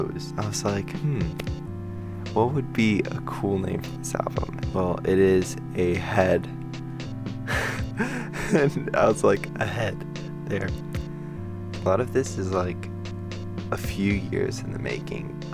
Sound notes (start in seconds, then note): 7.4 laughs